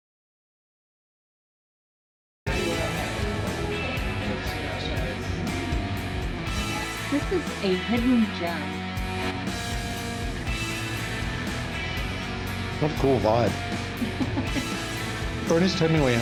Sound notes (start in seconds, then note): 13.9 laughter